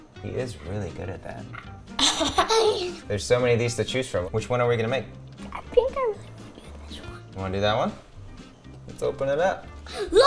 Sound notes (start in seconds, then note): 2.0 laughing